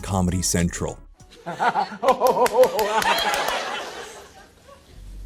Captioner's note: laughter